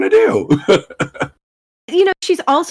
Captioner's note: laughs